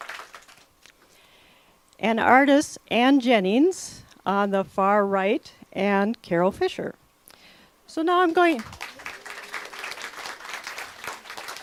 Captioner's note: clapping